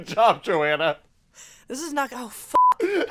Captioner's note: laughs